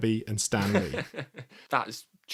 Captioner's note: laughs